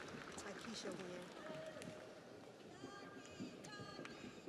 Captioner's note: audience applauds